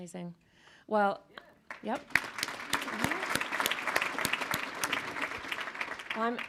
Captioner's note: audience applauding